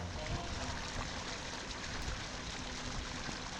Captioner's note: water splashing